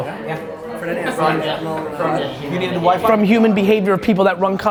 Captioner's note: multiple people talking in background